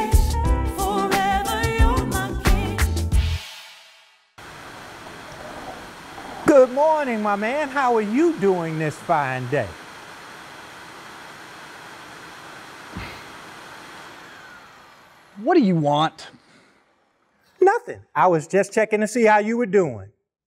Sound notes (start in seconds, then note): 4.3 motor running; 14.1 motor shuts off